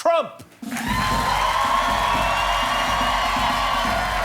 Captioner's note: cheers and applause